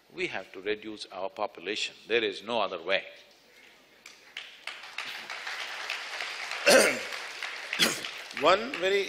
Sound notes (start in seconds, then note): 4.2 applause